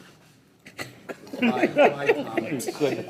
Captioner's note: people laugh